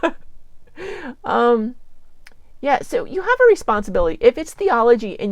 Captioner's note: laughs